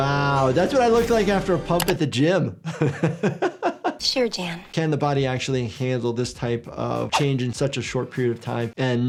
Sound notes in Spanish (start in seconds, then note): 2.6 el doctor se ríe